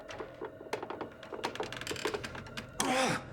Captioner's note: creaking